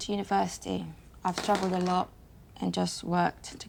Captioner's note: dice clattering